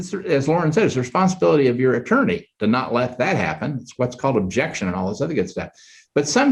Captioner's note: none